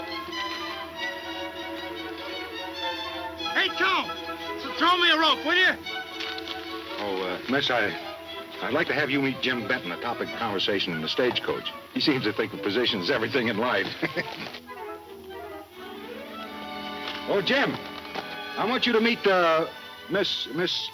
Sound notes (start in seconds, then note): 13.6 laughing